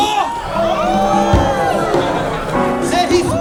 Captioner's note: crowd howls